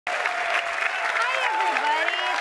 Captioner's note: audience cheers